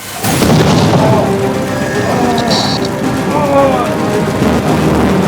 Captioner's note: grunting